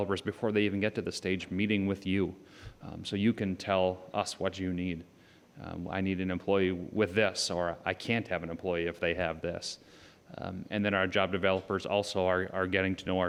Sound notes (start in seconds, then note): none